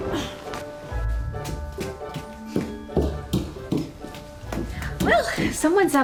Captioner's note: fast footsteps